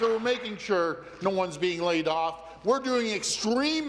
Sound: applause

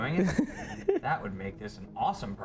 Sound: laughs

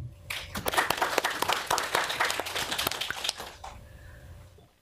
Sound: audience applauds

